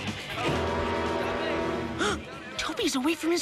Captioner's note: gasping